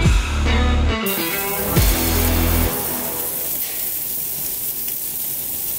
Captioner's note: pork chop sizzling